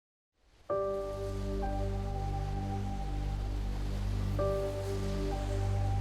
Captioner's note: tranquil music; waves splash